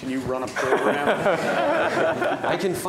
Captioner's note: laughter